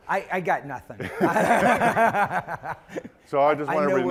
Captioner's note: laughing